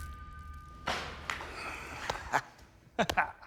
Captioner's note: laughs